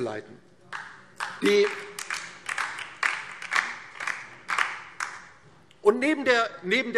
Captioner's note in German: Beifall DIE LINKE